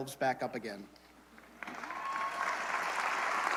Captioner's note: applause, cheering